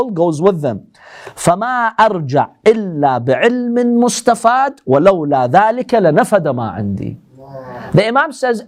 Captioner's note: Arabic